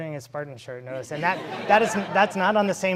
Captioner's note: laughing